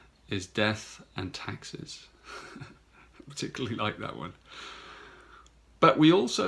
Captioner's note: chuckles